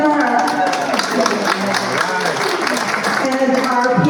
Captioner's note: cheers and applause